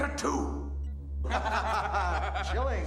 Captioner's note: laughter